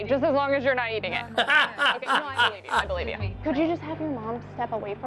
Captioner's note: laughs